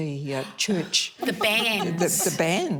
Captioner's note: gasps